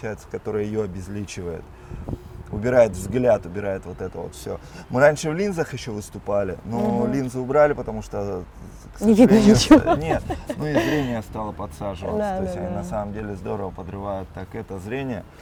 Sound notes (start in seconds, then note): 9.2 laughs